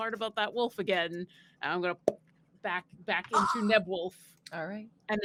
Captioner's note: imitates popping